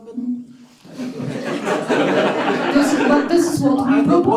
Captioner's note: laughter